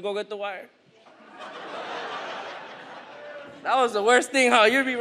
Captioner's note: audience laughs